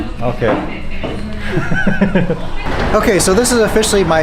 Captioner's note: laughs